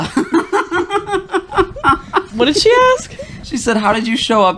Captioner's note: laughter